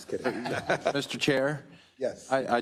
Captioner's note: laugh